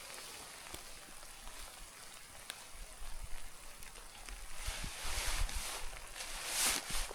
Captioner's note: water splashing